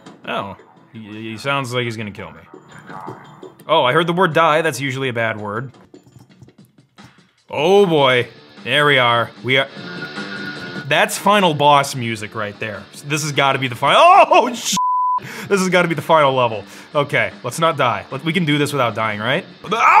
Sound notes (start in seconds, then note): 9.3 upbeat rock music; 14.7 beep